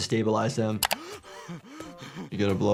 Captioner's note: Lumpy gasps